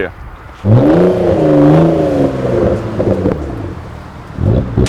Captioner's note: car engine revving